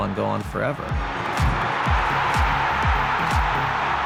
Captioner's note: cheers